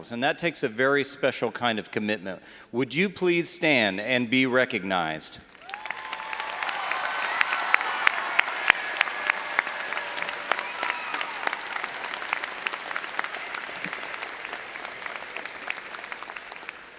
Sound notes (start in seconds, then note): 5.8 all applauding and cheering